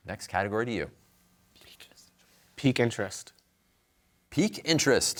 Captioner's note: whispering